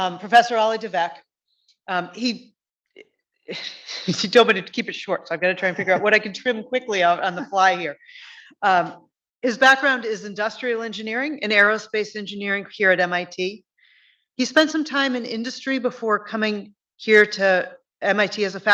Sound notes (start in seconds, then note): 5.6 chuckles